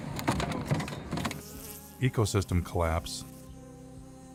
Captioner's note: banging and clunking; buzzing; eerie music